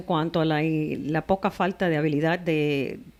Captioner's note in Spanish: Hablando ingl\s